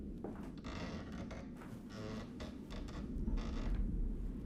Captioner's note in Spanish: tablas del piso crujiendo